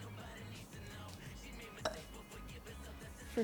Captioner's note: burp